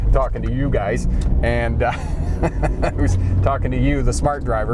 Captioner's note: laughs